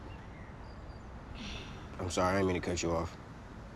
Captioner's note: sighing